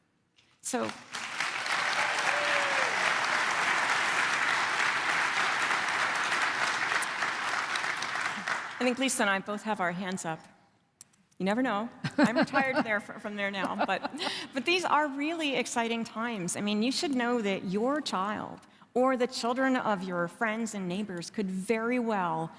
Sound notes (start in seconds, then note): 4.2 applause